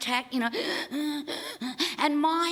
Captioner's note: wheezing